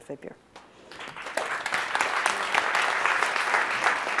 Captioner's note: audience applauds